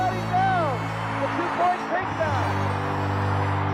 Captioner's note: announcer's voice